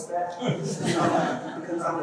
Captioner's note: laughter